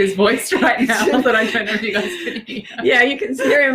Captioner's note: laughing